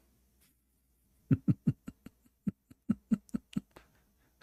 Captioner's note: Ketawa